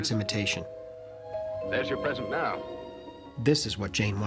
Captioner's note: doorbell Ringing